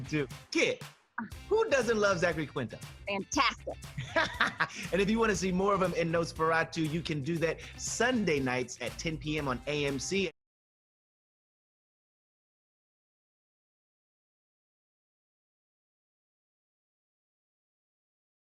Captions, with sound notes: Kit, who doesn't love Zachary Quinto? >> Fantastic! >> [ Laughs ] And if you want to see more of him in "Nos4a2," you can do that Sunday nights at 10:00 P.M. On AMC.